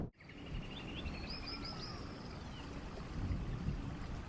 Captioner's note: birds chirping